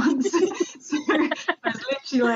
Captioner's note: both laughing